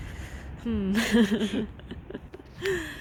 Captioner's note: laughs